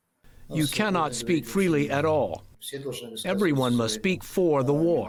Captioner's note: through translator